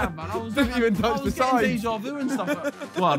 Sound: laughing

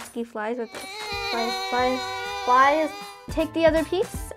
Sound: buzzing

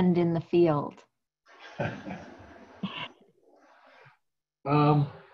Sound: laughs

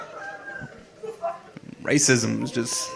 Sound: audience laughing

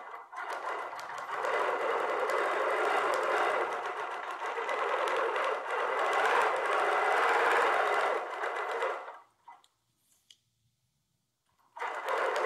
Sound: sewing machine whirring

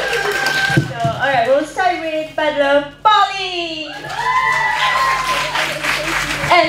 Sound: applause; applause

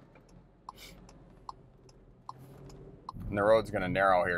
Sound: car signal clicking

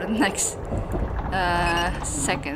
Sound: ship creak 02

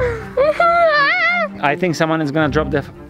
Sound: whines

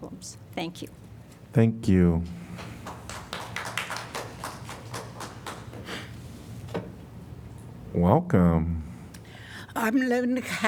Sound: applause

